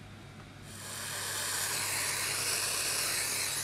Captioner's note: hissing